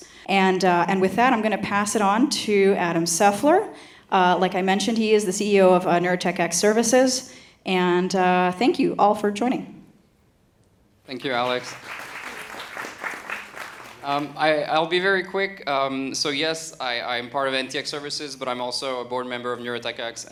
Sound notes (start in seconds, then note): 11.1 applause